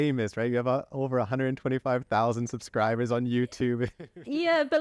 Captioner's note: laughter